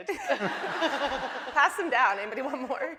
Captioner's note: laughing